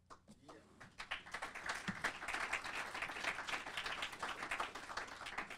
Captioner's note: audience applauding